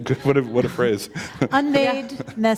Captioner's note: chuckle